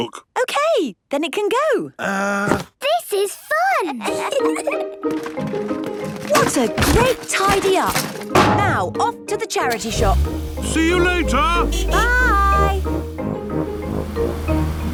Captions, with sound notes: - Okay, then it can go! - Uh-- - This is fun! (kids giggling) - What a great tidy-up. Now, off to the charity shop. - See you later! (honking) - Bye!